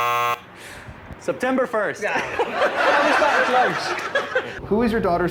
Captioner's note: laughs